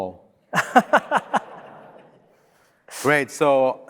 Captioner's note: laughs